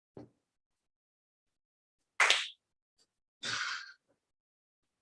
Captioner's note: clap